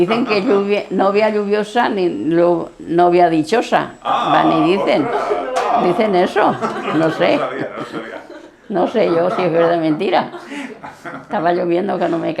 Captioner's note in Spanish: risas